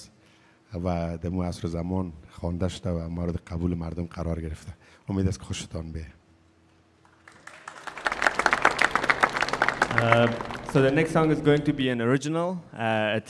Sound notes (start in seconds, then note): 7.0 audience applauding